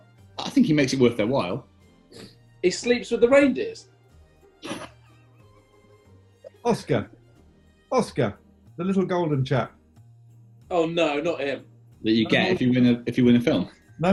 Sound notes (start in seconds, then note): 4.6 sniggering